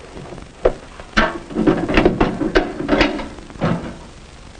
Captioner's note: banging noises